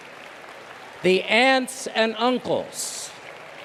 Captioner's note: applause